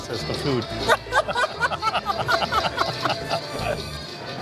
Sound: laughs

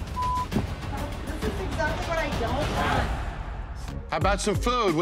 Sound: beep

